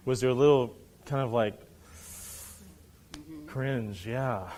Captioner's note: inhales